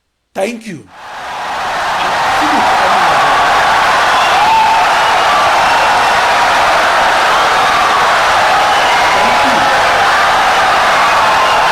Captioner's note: wild applause and cheering for 17 seconds